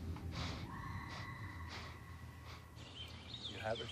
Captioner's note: woman screaming